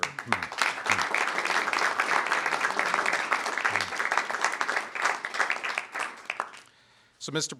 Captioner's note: applause